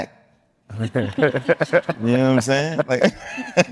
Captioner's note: group laughing